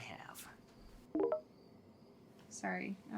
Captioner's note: phone chimes